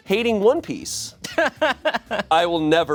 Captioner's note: laughs